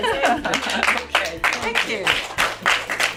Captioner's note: applauding